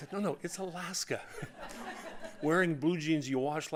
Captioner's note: audience laughing